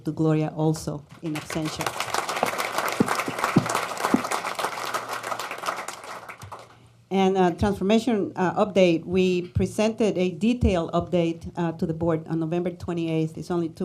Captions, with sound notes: SO LET'S SAY THANK YOU TO GLORIA ALSO. (APPLAUSE) A TRANSFORMATION UPDATE, WE PRESENTED A DETAILED UPDATE TO THE BOARD ON NOVEMBER 28TH.